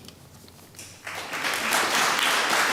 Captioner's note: applause